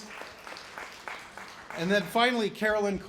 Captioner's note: applause